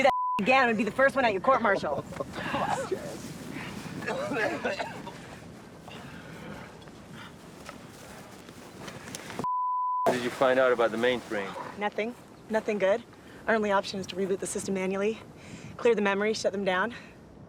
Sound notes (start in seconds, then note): 4.0 DeMicco coughing